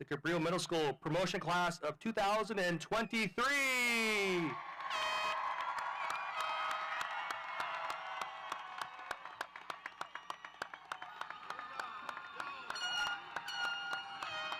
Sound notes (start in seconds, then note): 4.0 audience cheering; 4.9 horn blowing